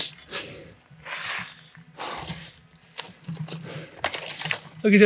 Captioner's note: heavy breathing